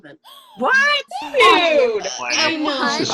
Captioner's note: shocked hubbub